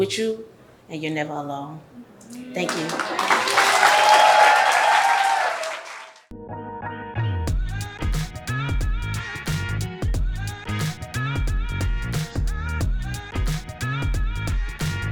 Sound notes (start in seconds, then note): 2.3 audience applauds; 6.3 mellow music